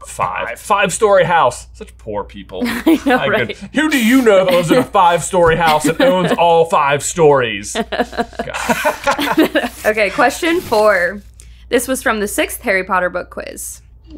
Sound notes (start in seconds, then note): 2.6 laughs; 7.7 laughing